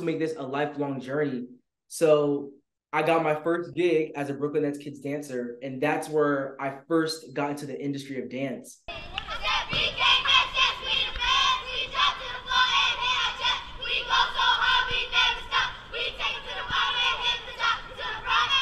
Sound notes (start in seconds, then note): 9.4 Brooklyn Nets Kids chanting